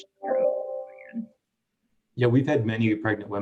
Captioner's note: computer chimes